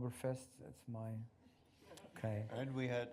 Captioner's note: laughter